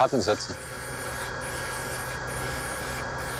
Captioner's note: whirring noises, spray noises